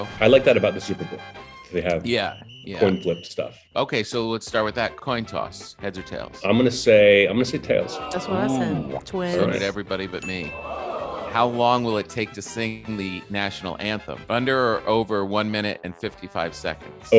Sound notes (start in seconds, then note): 10.2 bell dings